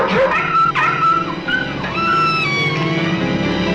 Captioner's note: dog whining